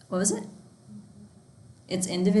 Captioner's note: student speaking faintly